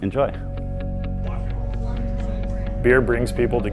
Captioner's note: gentle music; patrons chattering